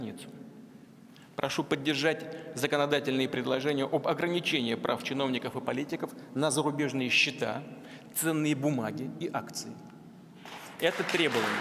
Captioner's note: applause